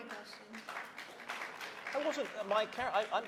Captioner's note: applause